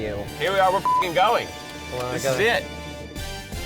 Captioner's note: beep